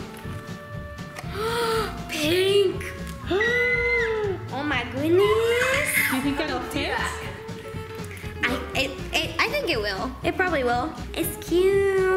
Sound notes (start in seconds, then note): 1.2 gasp